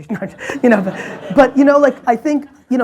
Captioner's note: audience laughs